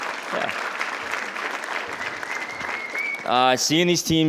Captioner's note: attendees cheering; attendees applauding